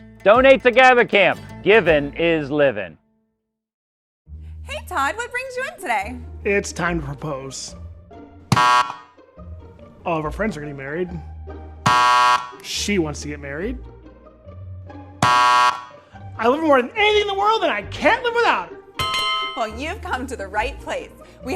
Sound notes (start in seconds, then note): 8.5 button buzzing; 11.8 button buzzing; 15.2 button buzzing; 19.0 bell ringing